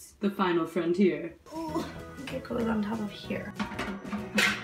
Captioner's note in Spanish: Gruñido